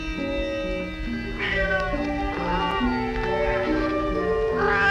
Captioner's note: cat Meowing